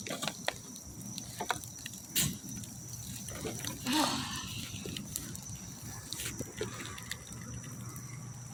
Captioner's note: can of burn material being moved; sigh